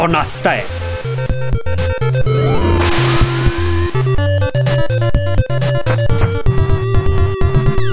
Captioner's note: ingame sounds